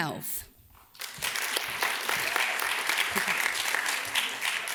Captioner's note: audience claps